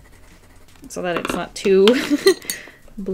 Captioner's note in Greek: Γέλια